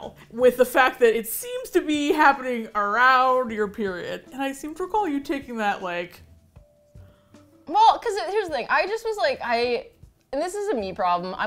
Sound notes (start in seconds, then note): none